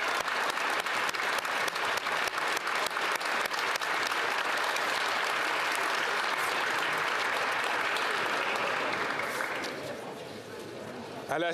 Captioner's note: applause